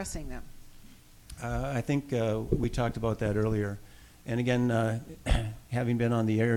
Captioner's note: clears throat